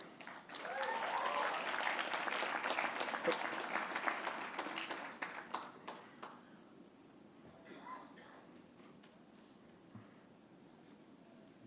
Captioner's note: applause